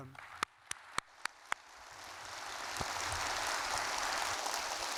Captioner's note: audience applauding